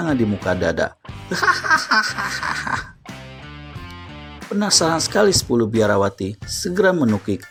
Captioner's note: laughs